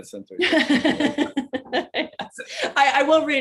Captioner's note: both laughing